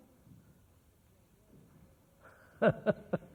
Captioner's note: laughs